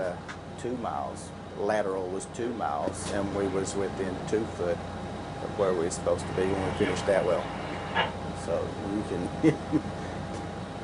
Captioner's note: laugh